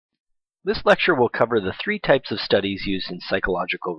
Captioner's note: voiceover